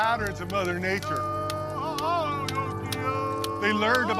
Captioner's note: chanting continues